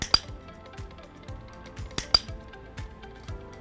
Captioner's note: clicker